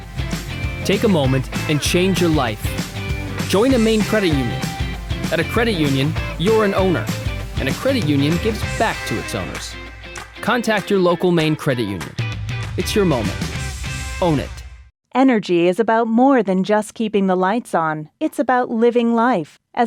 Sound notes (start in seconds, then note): 15.2 voiceover